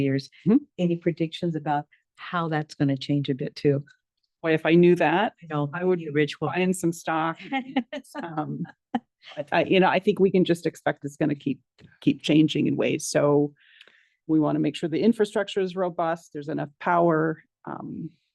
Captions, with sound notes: any predictions about how that's gonna change a bit, too? - Boy, if I knew that- - I'd be a rich woman. - I would be buyin' some stock. (board members laugh) You know, I think we can just expect it's gonna keep changing in ways, so we wanna make sure the infrastructure is robust, there's enough power.